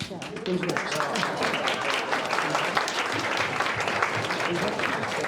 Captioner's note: crowd applauding